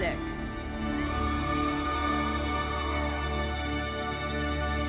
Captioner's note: audience cheering; lively uplifting music fades